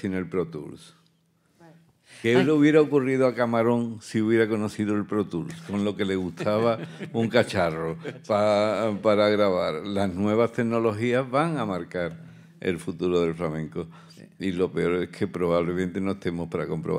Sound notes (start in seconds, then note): 3.1 continues in Spanish; 6.2 panelists laugh; 9.5 continues in Spanish